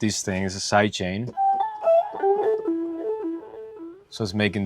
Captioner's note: tones playing